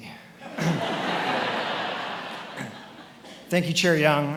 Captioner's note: attendees laughing